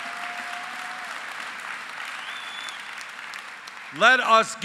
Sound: applause

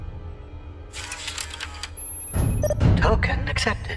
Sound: computer sounds

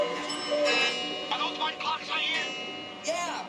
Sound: clocks chime loudly

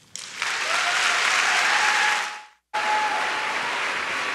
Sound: applause

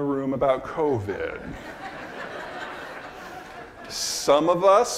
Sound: audience laughing

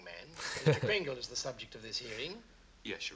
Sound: laughing

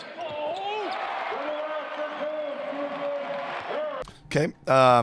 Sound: crowd cheering

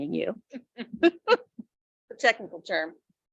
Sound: board members laughing

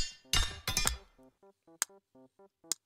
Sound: ninjas swords clash

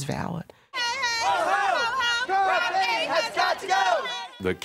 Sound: chanting

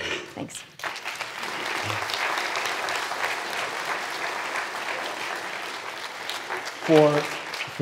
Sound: applause

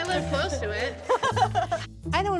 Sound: laughing

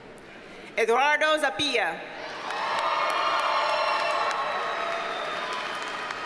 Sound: audience cheers and applauds

